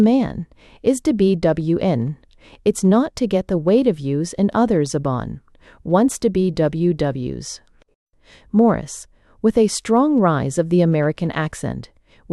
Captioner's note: _With a strong rise of the American accent. _